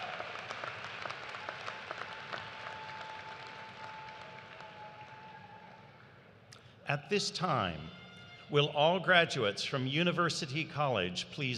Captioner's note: cheers and applause